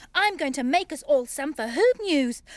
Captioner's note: none